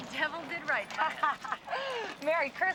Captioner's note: ladies laughing